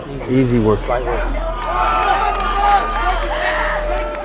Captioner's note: crowd yelling